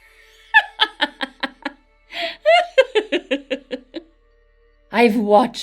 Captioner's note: laughs